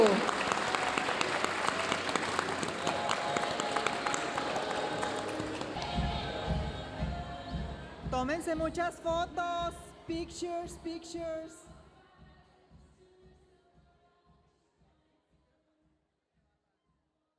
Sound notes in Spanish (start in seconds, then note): 0.0 hablando en inglés; 0.0 aplausos de la audiencia; 10.1 hablando en inglés